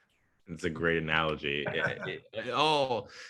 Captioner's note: laughs